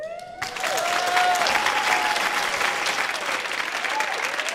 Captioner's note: audience applauding